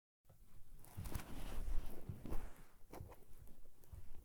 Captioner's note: curtain rustles